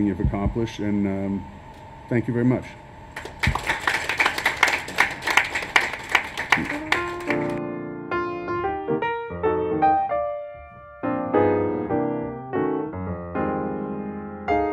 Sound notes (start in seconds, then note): 3.1 applause; 6.5 jazz piano music